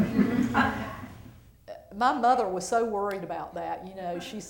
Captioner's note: laughter